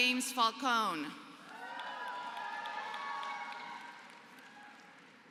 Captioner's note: applause